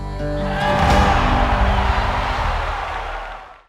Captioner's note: crowd cheering